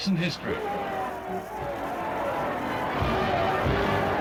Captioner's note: crowd cheering; classical music